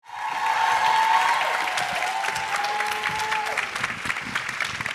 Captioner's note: audience cheering